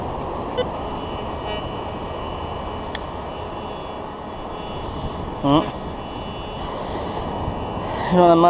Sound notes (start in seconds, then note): 0.5 detector beeping and buzzing